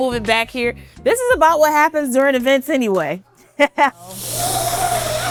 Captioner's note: laughter